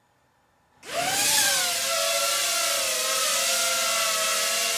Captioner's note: mechanical whirring